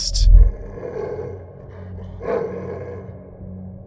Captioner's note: dog snarling